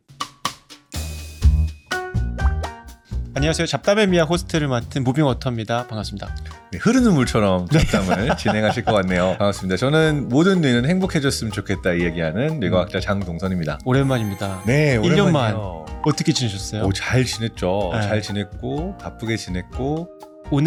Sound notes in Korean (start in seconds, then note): 1.0 유쾌한 음악; 7.7 웃음